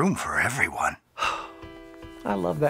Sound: sigh

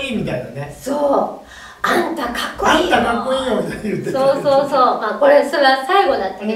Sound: laughs

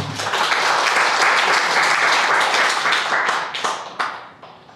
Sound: crowd applauding

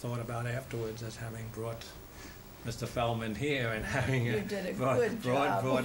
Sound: laughs

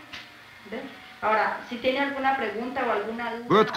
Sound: speaking Spanish

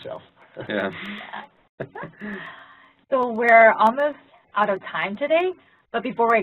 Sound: laugh

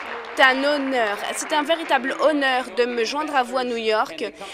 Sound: applause

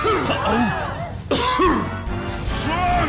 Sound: one more cough

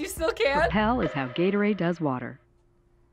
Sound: voice-over

